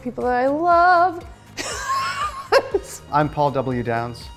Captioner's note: laughs